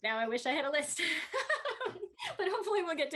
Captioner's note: Tui laughing